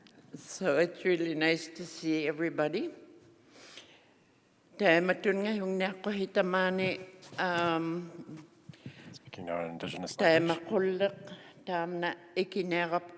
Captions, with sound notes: So it's really nice to see everybody. [speaking Indigenous language]